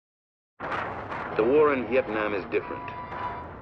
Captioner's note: explosion